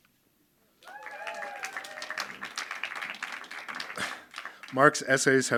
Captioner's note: audience cheering and applauding